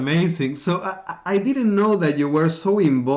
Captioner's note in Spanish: Risas